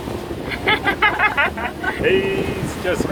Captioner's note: laughs